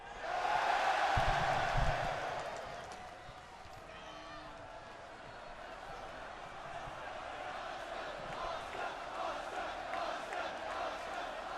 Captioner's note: crowd cheering